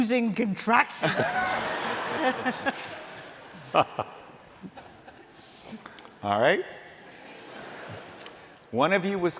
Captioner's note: laughter